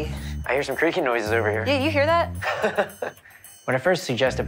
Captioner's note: laughs